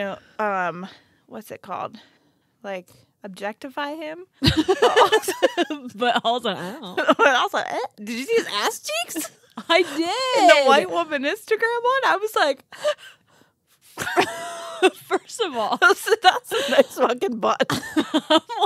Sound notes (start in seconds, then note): 4.4 group laughs; 6.9 flirtatiously moans; 14.0 group laughs